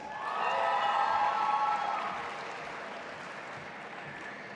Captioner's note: audience applauding